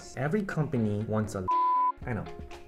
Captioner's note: beep